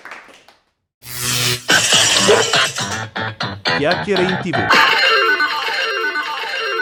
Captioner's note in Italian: Applauso